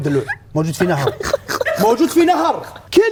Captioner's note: laughing